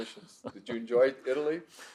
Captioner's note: chuckles